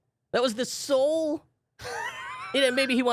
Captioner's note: laughing